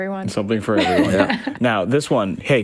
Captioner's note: laughs